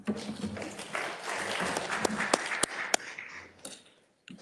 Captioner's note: attendees applauding